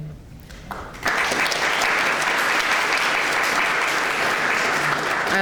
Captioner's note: clapping